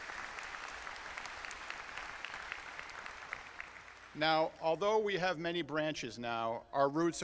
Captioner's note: applause